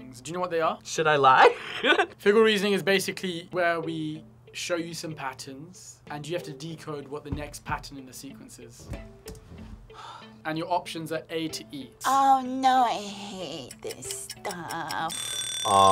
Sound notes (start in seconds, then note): 1.9 laughs; 9.9 sighs; 15.0 bell rings